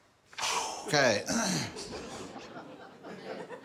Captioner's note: exhales; laughter